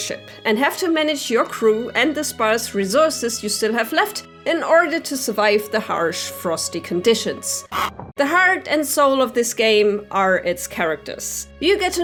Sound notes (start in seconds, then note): 7.7 penguin honk